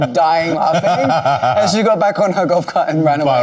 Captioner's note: laughing